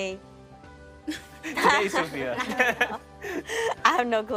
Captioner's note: all laughing